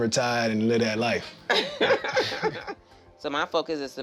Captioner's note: laughing